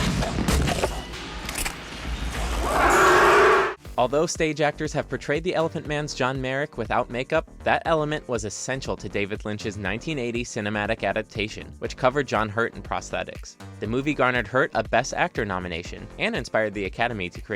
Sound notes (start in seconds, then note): 2.5 Violator screeching